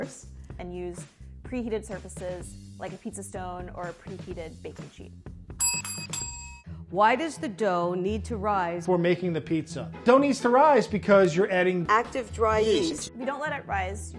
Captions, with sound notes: - And use preheated surfaces like a pizza stone or a preheated baking sheet. [bells ring] - Why does the dough need to rise - Before making the pizza? Dough needs to rise because you're adding - Active dry yeast. - Yeast. - If we don't let it rise,